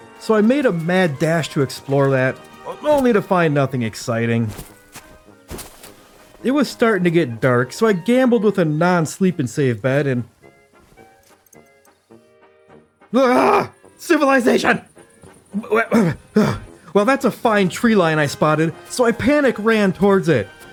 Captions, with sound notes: So I made a mad dash to explore that, only to find nothing exciting. It was starting to get dark, so I gambled with a non-sleep and save bed and... Ugh! Civilization! [Stammering]i Well, that's a fine tree line I spotted, so I panic ran towards it.